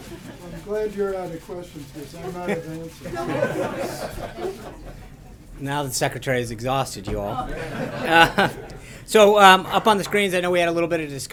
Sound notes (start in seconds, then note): 3.9 laughter; 7.2 laughter